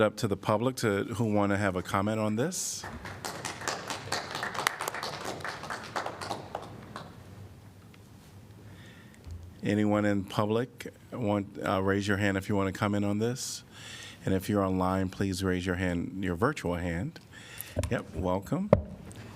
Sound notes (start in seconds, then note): 2.8 applause